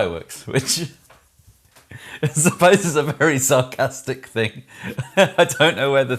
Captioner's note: laughs